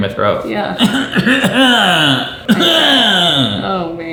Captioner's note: clearing throat